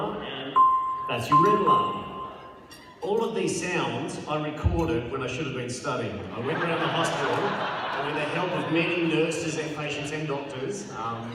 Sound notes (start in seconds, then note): 6.3 laughter